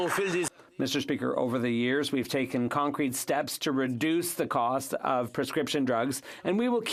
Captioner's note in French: applaudissements